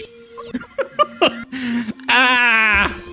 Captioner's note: laughs